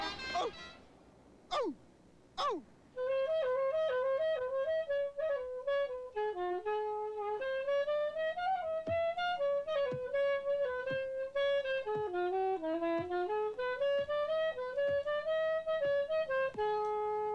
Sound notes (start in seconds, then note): 0.1 seal barking; 9.7 seal tapping in rhythm